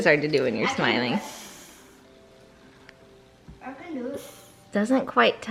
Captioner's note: sniffing